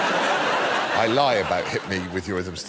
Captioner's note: laughter